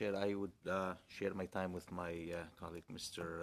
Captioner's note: speaking French